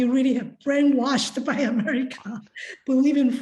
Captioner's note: laughs